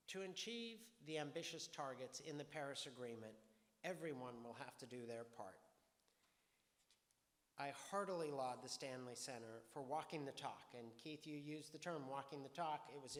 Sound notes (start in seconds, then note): none